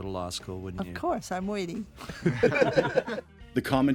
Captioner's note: laughter